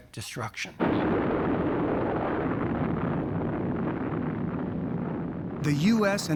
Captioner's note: loud explosion